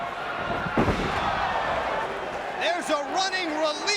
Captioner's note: crowd chattering; Tanaka thuds